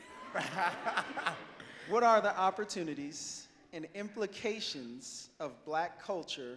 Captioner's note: laughs